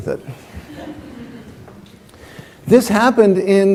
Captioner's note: laughter